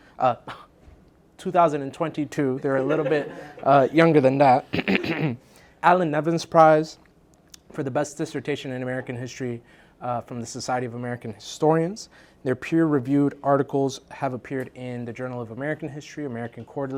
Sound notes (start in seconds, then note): 2.8 laugh; 4.7 cough